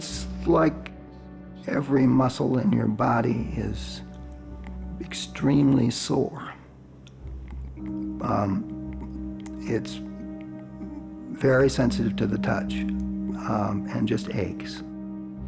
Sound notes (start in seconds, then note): none